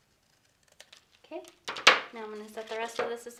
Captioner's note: scissors clatters